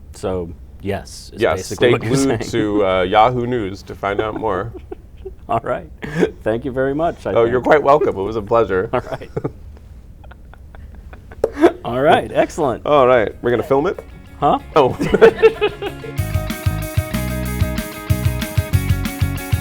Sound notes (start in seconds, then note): 10.1 laughter; 14.9 laughter